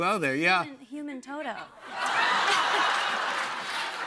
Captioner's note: laughter and applause